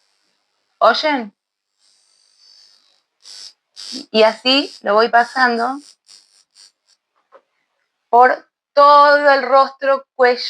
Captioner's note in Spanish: resoplido